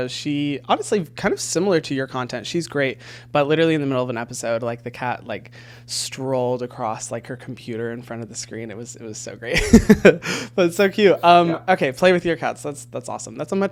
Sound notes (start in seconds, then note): 9.6 laughing